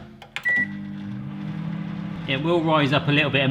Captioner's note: microwave whirring